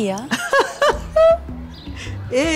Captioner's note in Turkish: Gülme sesi